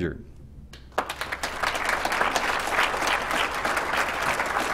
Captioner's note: applause